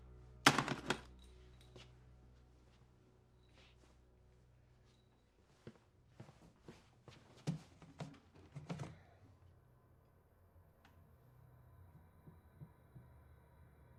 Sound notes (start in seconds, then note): none